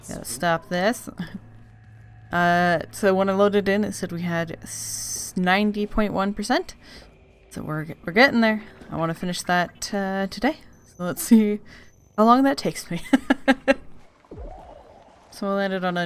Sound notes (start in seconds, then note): 13.0 laughs